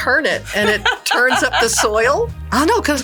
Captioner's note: laughing